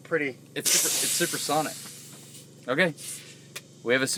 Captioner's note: air gushing